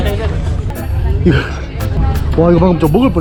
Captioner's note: laugh